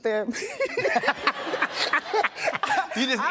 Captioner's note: laughter